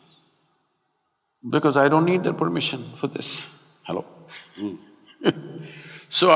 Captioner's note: laughs